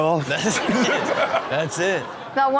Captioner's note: audience laughs